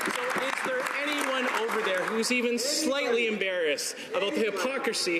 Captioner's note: some Applause